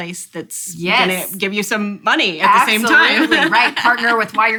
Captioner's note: laughs